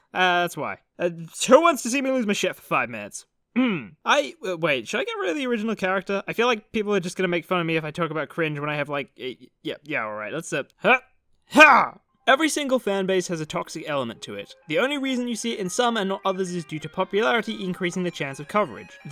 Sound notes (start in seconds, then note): 3.5 clears throat